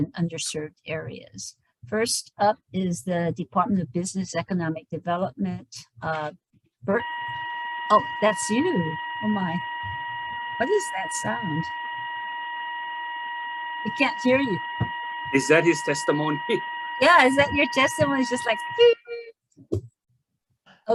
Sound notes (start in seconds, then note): 7.2 technical alarm beeps; 16.8 laughs